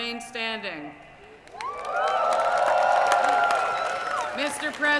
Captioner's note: cheering